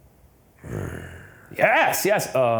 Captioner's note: growls